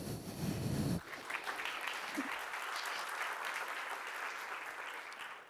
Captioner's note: applause